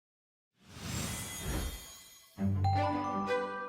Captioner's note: air whooshing